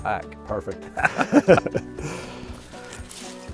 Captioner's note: both laughing; upbeat music